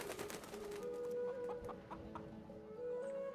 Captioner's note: clucking